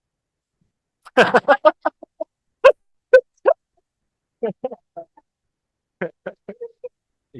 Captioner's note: laughters